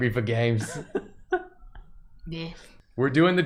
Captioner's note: laughter